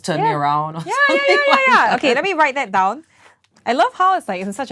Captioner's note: excitedly